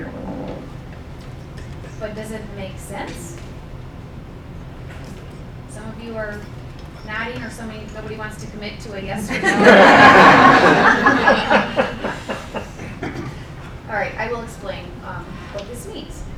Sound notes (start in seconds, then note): 9.1 laughing